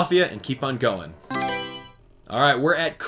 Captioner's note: Mario Selection Sound